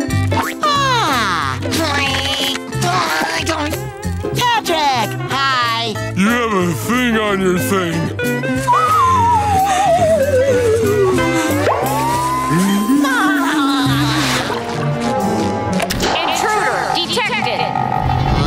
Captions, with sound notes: Ah! [grunting] -Patrick, hi! -You have a thing on your thing. [laughing] Intruder detected.